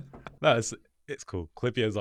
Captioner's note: laughs